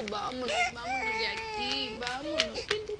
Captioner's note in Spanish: Llanto de la bebé